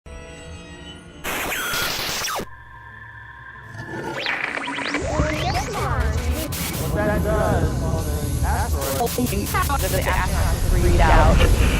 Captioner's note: sound Effects